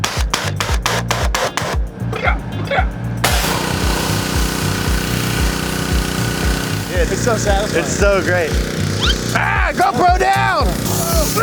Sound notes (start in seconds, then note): 0.1 high pressure washer sprays; 3.2 high pressure washer hums